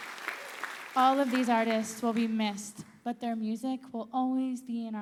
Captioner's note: applause